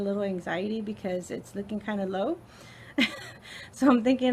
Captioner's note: laughs